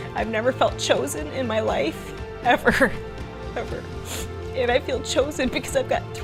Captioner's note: sniffles